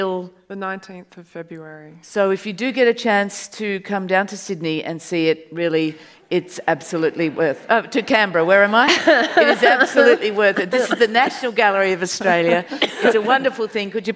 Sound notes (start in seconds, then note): 8.7 audience laughs